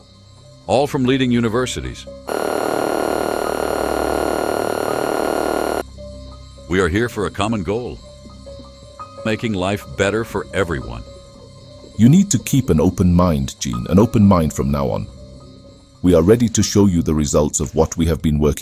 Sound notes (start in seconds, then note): 2.2 door buzzes open